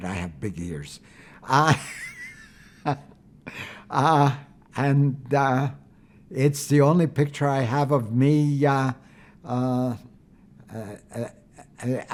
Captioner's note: laughing